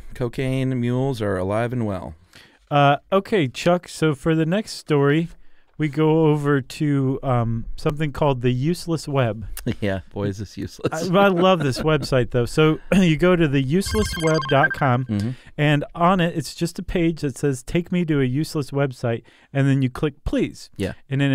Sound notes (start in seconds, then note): 10.9 laughs; 13.9 futuristic shimmering